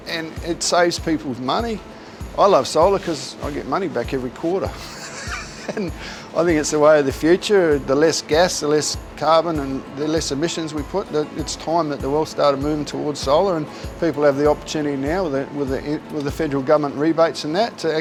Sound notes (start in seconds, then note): 4.8 laughter